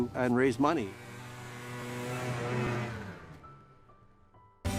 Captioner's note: engine roaring